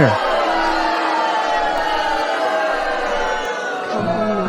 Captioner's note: audience booing